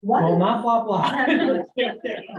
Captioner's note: laughter